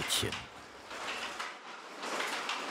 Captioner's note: rattling